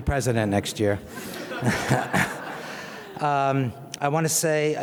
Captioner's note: audience laughs